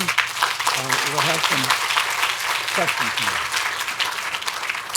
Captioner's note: audience applauding